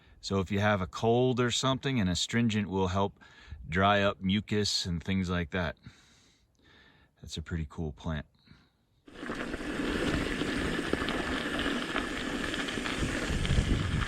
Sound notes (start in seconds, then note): 9.6 tires rumbling